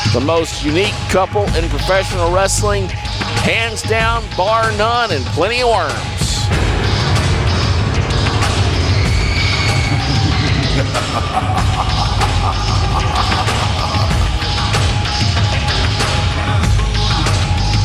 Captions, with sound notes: the most unique couple in professional wrestling, hands down, bar none, and plenty of worms. (lively tribal music) (man laughing manically) (lively tribal music)